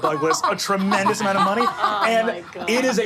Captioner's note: group laughing